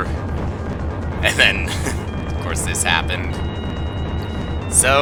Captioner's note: laughs